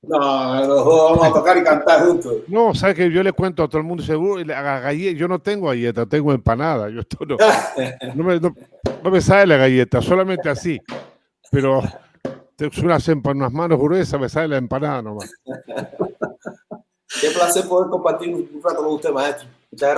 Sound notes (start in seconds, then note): 0.1 Risas; 7.4 Risas; 15.2 Risas